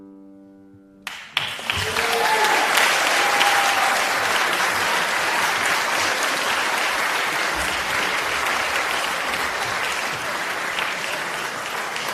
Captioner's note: applause